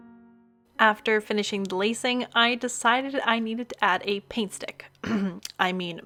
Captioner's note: coughcough